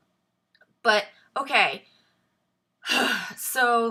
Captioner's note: sighs